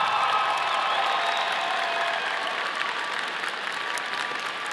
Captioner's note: audience applauding